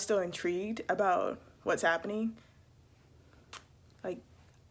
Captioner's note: kiss